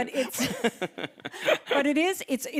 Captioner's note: chuckling